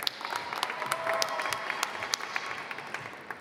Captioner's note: applause